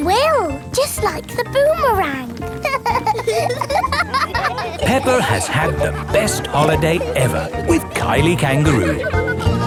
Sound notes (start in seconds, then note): 2.5 laughing